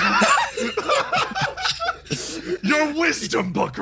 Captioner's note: laughs